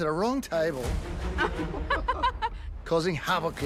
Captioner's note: both laugh